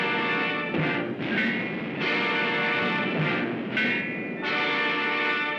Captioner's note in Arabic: بوم; موسيقى درامية